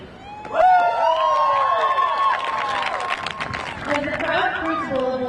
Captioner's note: crowd cheering; crowd applauding